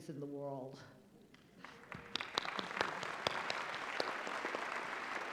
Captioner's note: applause